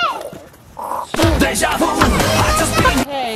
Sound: boy make wooshing sound; energetic music

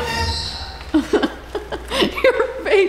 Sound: horror movie music; laughing

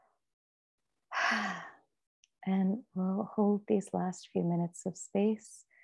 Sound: sighs

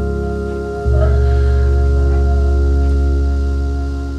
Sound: soft crying

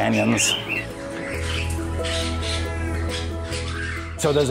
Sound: birds chirping

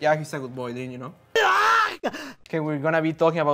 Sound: Link yelling

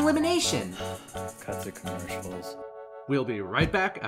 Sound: sigh

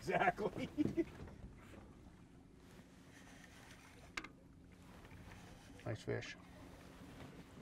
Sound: laughing

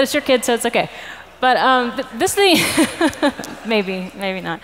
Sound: laughs

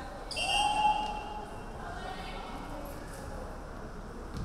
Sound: referee whistling

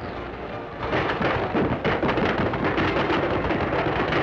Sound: clanks

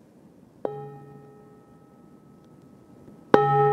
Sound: bowl chiming

